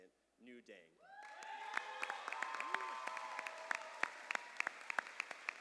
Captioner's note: cheers and applause